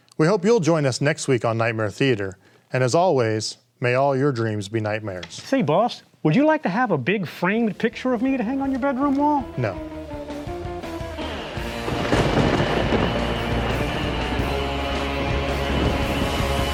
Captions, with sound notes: We hope you'll join us next week on Nightmare Theatre. And as always, may all your dreams be nightmares. - Say boss, would you like to have a big framed picture of me to hang on your bedroom wall? - No. (thunder rolling) (lively music)